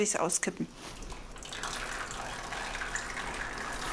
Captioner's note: noisy trickling